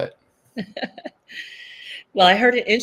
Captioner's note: laughs